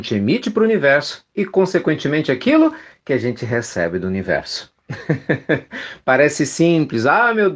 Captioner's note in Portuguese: risadas